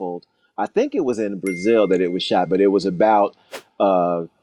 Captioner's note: ding sound